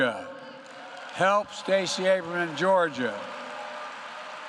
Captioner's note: applause